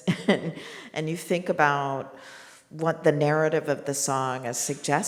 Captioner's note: laughs